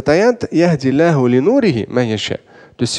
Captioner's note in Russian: Говорит на арабском